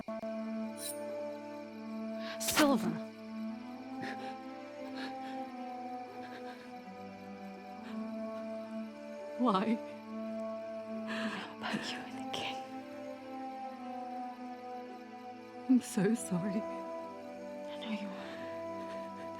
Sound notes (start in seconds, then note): 0.8 knife scratches; 2.4 knife squelches; 4.7 Theckla groans softly; 7.0 solemn music continues